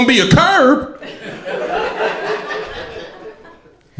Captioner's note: crowd laughter